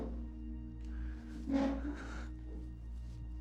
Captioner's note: brooding music continues; desk scrapes